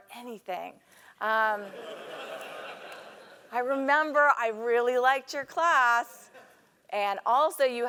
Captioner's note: laugh